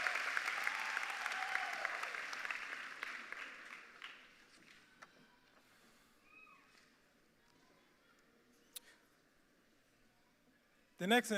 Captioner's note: cheers and applause